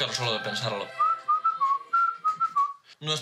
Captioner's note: he whistles